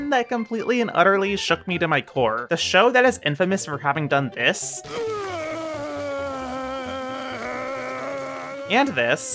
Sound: vomiting

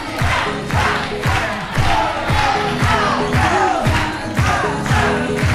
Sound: characters clapping; characters stomping

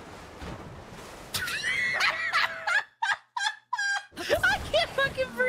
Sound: laughter

